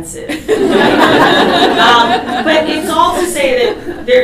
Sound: audience laughs

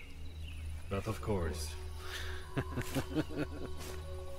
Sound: laugh

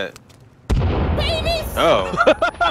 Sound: explosion; laughter

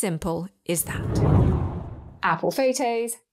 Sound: air whooshes

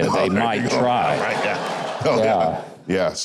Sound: audience laughing

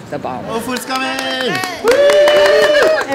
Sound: cheering

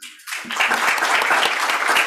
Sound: applause

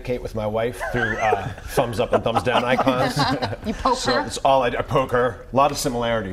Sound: laughter

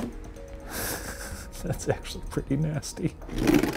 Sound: laughs

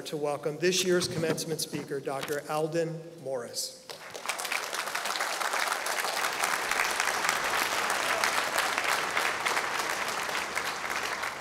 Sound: applause

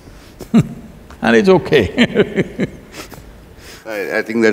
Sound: laughs

